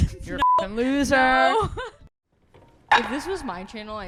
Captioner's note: beep